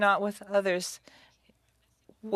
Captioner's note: speaking French